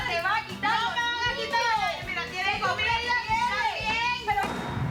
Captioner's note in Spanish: Discusión a gritos